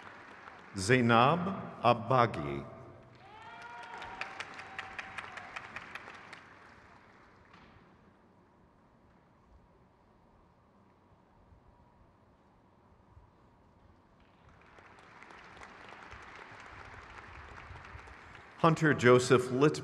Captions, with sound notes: Kyle Muthraman. (crowd claps)